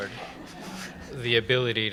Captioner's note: laughter